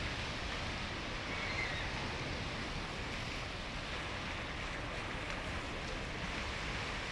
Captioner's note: airplane engine roaring